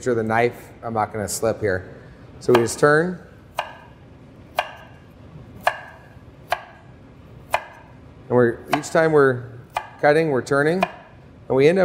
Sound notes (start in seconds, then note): 3.4 chopping